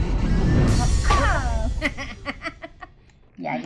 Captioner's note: laughing